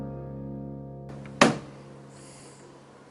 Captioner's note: bang!